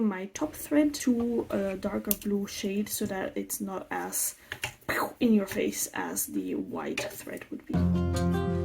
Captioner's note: phew